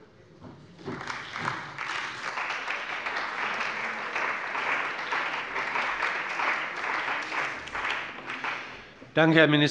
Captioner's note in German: Beifall bei der CDU und dem BÜNDNIS 90/DIE GRÜNEN